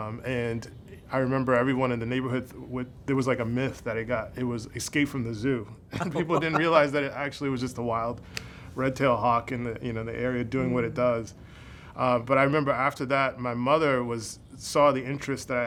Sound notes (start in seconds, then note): 5.9 laughs